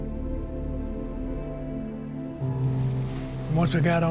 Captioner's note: water splashes